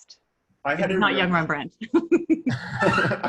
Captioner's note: laughs